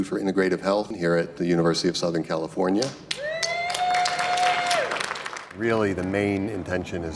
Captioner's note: applause